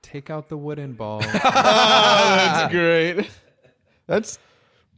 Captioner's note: both laughing